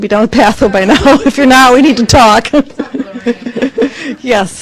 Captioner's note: laughs